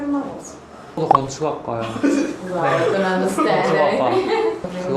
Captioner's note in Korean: 목을 가다듬음